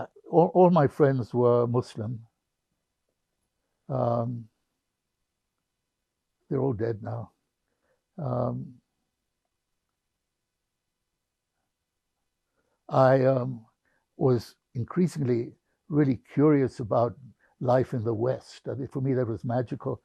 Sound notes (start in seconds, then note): 8.8 pauses 6 seconds